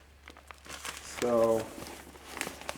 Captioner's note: papers crumpling